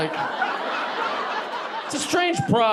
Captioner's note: audience laughing